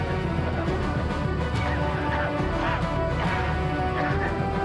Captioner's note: coughing